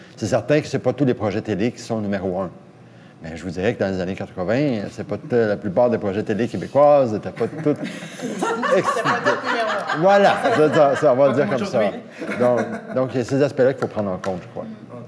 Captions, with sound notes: Certainly, not all these TV projects are number one. I'd say that in the '80s, most Quebec TV projects weren't... (laughter). There you go! These aspects have to be taken into account, I believe.